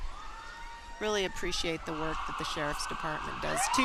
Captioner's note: sirens